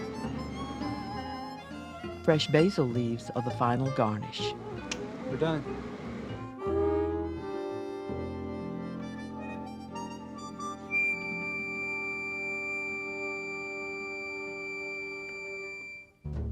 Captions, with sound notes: - [Voiceover] Fresh basil leaves are the final garnish. - We're done. (jazz music)